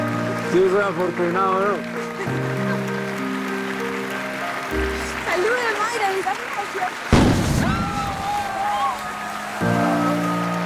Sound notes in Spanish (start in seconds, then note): 1.9 Ríe; 7.1 Explosión